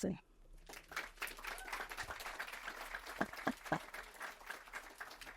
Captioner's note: audience applauds